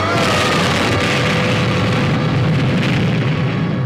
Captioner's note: explosion booming